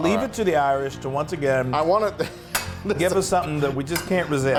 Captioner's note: laughing